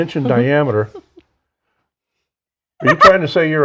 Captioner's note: giggles